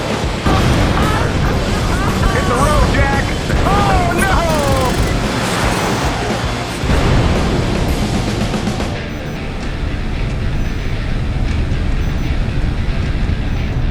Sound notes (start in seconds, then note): 0.2 explosions; 4.4 explosion